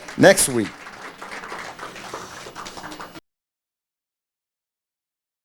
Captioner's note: audience clapping